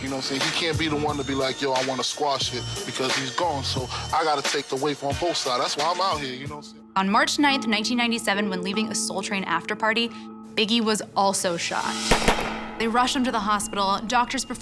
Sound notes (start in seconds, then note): none